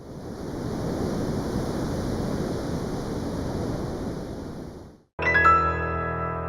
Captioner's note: surf roaring